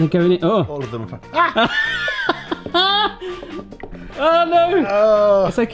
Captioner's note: laughs